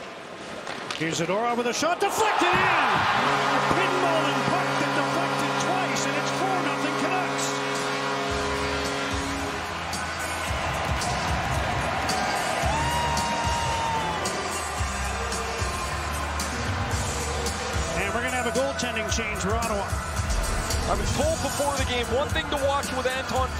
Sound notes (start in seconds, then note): 6.8 horn; 15.5 cheers and Applause